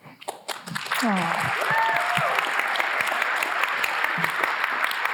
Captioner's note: audience applauding